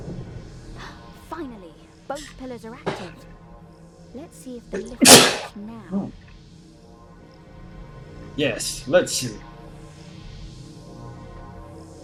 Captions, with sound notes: [gasps] Finally! Both pillars are active! Let's see if the lift works now! [sneezes] Nngh! Yes. Let's see.